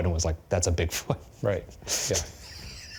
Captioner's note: laughing